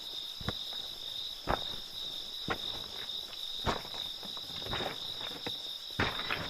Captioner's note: pebbles crunching; crickets chirping